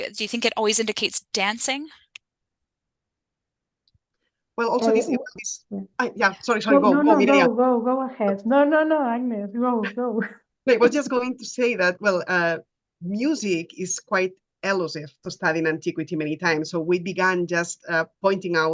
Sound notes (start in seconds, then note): 10.2 laughing